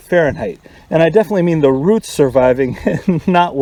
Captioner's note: laughter